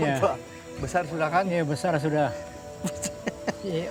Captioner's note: laughs